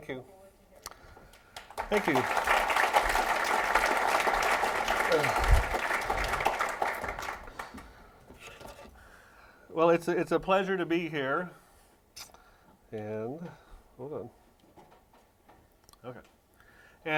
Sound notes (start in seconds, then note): 1.3 applause